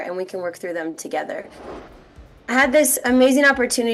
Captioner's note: air whooshing